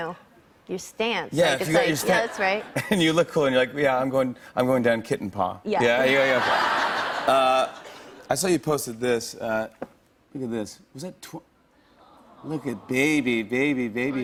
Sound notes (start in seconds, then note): 6.1 laughter; 10.5 audience awws